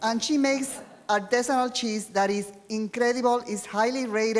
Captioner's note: foreign language